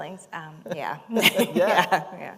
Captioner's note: laughter